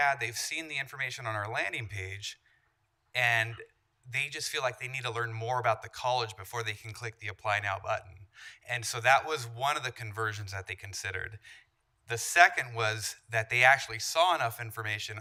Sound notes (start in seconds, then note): none